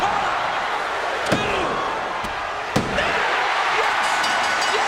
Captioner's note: hand pounding